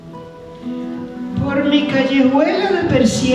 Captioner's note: speaking spanish